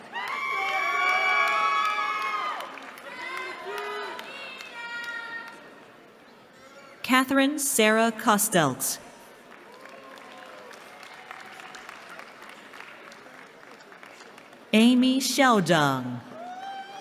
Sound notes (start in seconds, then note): 0.0 cheering; 9.2 applause